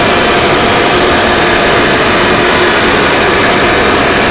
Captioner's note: engine revving